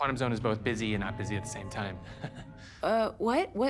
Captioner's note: chuckles